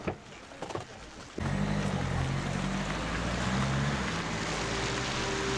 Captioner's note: engine rumbling; somber instrumental music